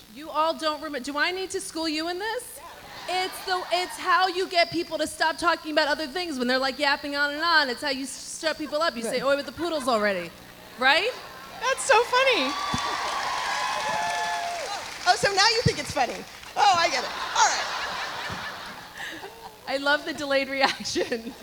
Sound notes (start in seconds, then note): 11.4 audience applauding; 12.7 audience cheering; 18.3 Lauren laughs; 18.3 audience laughs